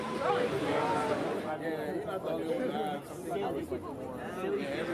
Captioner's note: people chattering